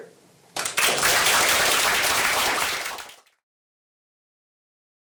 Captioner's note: applause